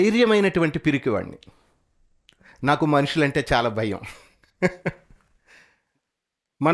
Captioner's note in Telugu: నవ్వు